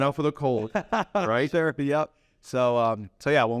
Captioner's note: laughs